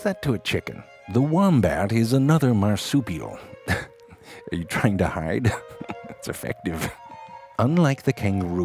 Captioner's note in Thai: หัวเราะ